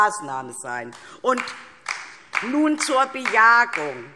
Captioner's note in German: Beifall DIE LINKE